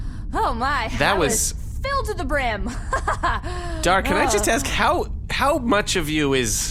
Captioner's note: laughs